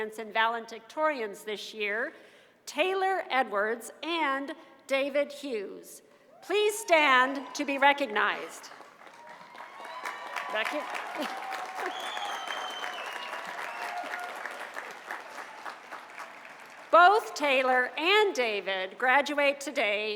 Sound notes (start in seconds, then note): 9.5 cheers and applause